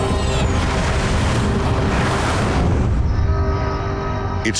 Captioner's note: plane crashes